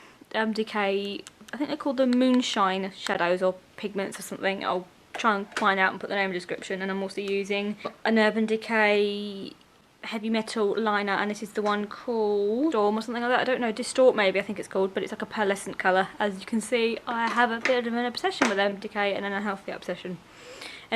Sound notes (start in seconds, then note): none